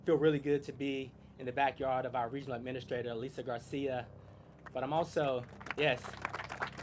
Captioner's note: applause